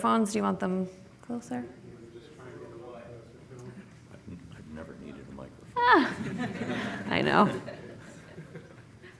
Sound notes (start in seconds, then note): 7.7 laughing